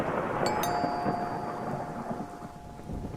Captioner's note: door bell